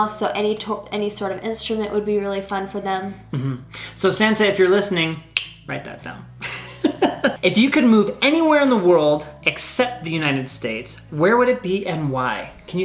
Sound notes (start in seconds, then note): 5.6 clicks tongue; 6.4 laughs